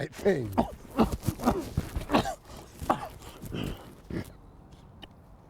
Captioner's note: gorilla noises!